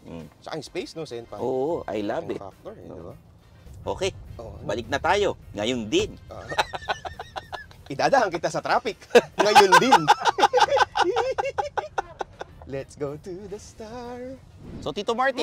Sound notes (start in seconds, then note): 6.4 laughs; 10.5 continues laughing